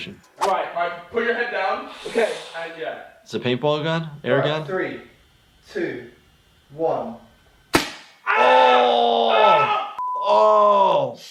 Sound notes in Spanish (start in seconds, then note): 7.7 disparo de pistola de paintball; 8.9 gritando